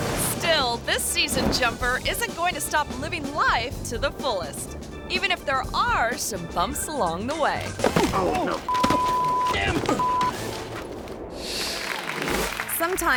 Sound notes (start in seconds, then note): 7.6 thuds; 8.6 beep; 11.4 audience clapping